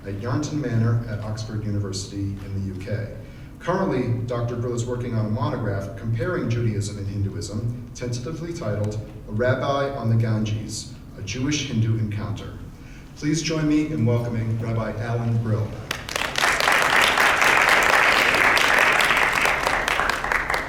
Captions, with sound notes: at Yarnton Manor at Oxford University in the UK. Currently Dr. Brill is working on a monograph comparing Judaism and Hinduism, tentatively entitled, "A Rabbi on the Ganges: A Jewish-Hindu Encounter". Please join me in welcoming Rabbi Alan Brill. (audience claps)